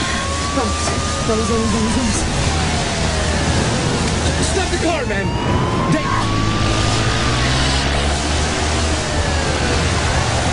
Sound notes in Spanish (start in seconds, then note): 6.2 Sirenas; 8.8 Grita